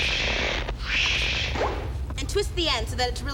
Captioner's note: blows